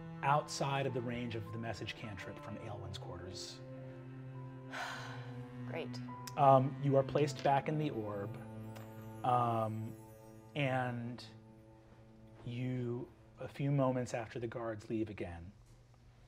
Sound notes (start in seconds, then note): 4.7 sighing